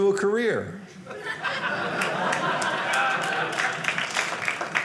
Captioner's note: audience laughing